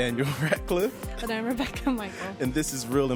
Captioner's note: he laughs